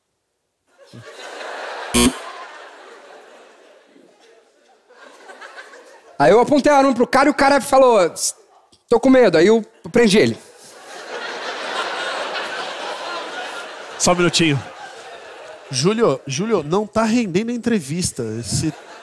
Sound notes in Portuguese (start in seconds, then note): 2.0 campainha